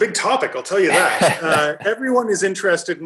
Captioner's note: laughs